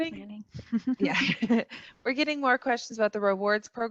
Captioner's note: laughs